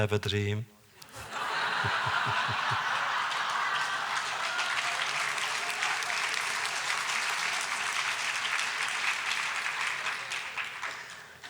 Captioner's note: laughter, applause